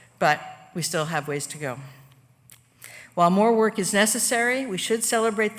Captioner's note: none